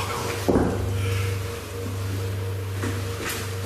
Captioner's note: knocks